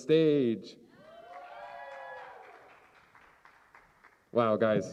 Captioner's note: cheers and applause